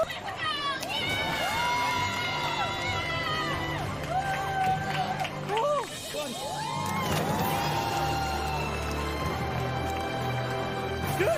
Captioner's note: applause